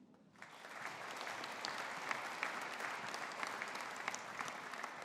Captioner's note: audience applauding